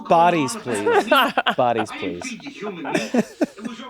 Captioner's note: laughs